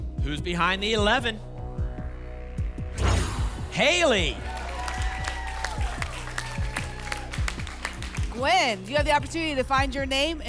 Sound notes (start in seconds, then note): 2.9 whoosh; 5.2 applause and cheering